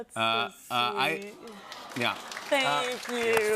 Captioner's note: audience awws